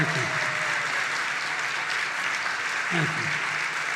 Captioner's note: applause